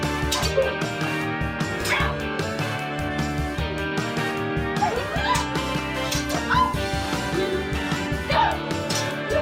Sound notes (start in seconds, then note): 0.2 clang; 6.0 clang, clash